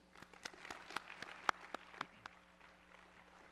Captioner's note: applause